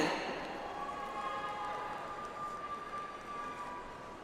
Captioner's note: audience applauds